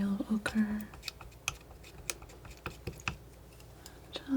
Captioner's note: scratching